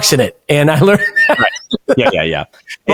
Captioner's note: laughing